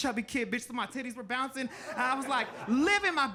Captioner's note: audience laughing